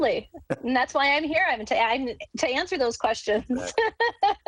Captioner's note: laughs